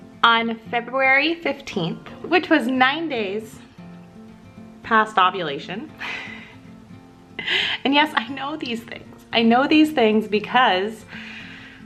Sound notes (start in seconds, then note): 6.8 laughs